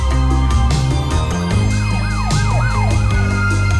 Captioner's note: siren wails